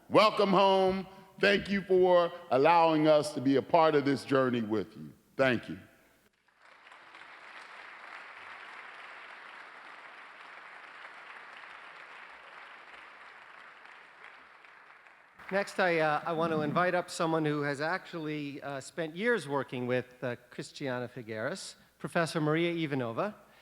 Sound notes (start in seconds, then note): 8.3 applause